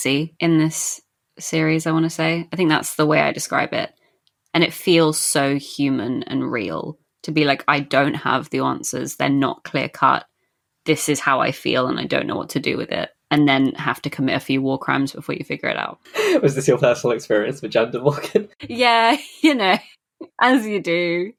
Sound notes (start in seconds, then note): 16.1 laughing